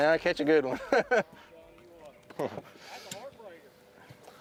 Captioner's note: laughs